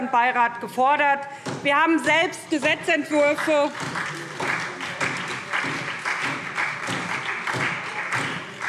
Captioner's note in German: Beifall SPD